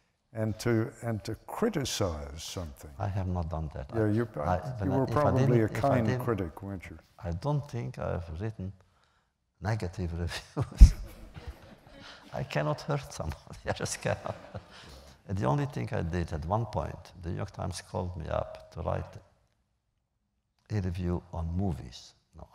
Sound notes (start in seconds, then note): 10.7 laughs